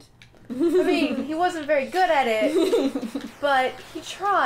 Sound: laughter

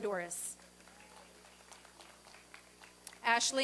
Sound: applause and cheering

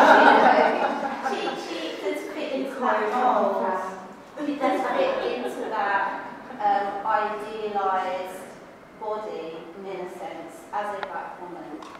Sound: laughs

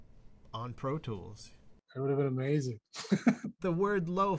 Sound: laughter

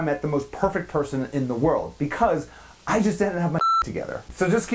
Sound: beep

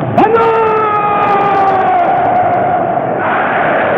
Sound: crowds shouting

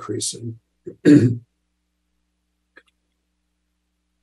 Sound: clears throat

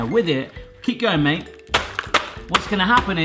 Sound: repetitive banging

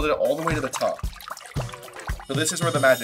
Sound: water trickling

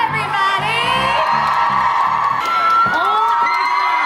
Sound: audience cheers

